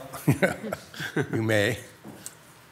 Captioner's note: board members laughing